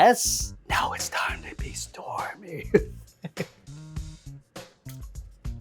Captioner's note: laughs